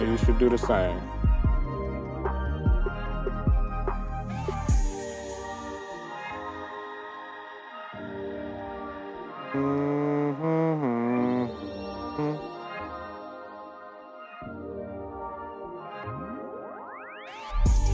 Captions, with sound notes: You should do the same. (soft upbeat music) (humming) (soft upbeat music)